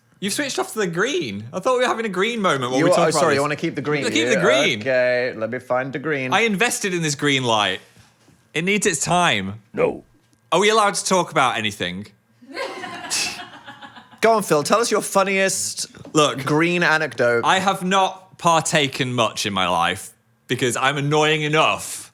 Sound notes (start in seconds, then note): 12.5 both laugh